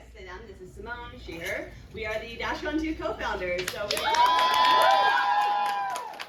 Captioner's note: crowd cheers